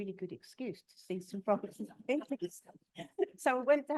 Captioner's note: both chuckling